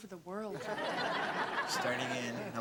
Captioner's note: audience laughs